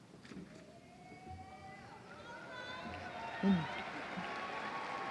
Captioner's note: applause